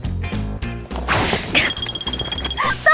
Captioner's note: thwack